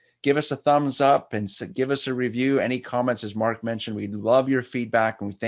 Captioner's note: none